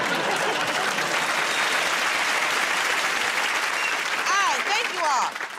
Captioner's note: applause